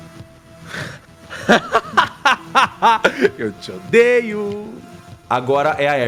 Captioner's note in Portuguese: risadas